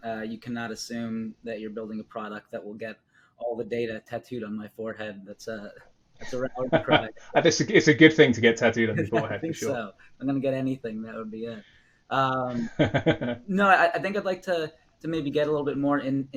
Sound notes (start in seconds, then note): 6.2 laughs; 12.4 laughs